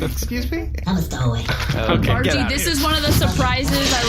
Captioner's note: shooing